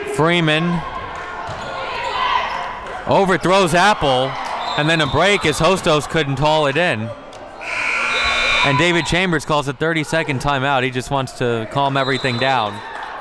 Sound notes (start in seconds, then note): 4.6 whistle blows; 7.6 buzzer blares